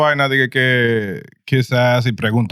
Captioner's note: speaking In Foreign Language